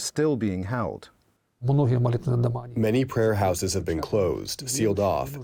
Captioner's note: through translator